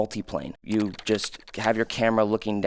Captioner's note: computer keys clicking